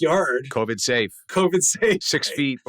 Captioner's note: laughs